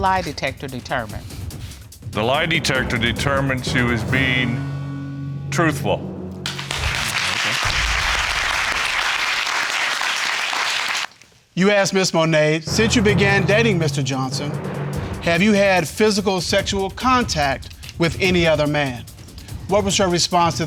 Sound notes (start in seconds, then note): 6.4 audience applauding